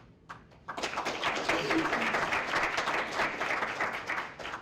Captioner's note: applause